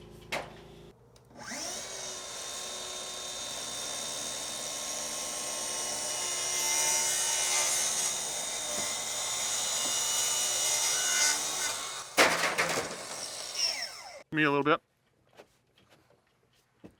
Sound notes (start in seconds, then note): 1.6 saw whirring